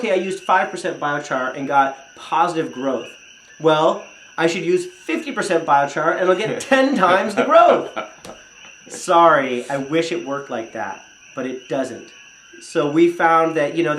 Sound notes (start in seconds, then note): 6.3 chuckles